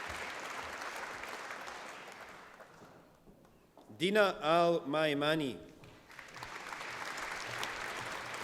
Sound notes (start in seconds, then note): 5.9 applause